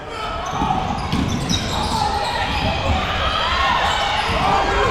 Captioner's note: audience yelling